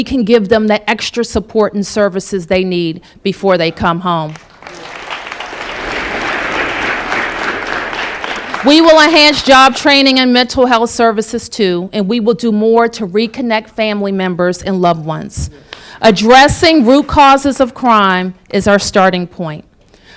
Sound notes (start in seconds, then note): 5.8 applause